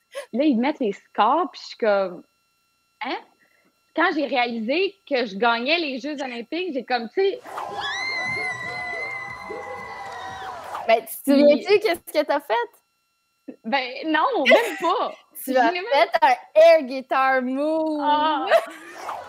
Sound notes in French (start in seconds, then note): 7.4 cri très aigu